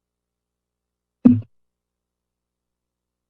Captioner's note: mic thuds